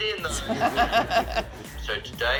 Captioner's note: laughs